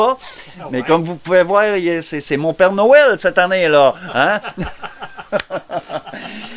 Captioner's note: laughter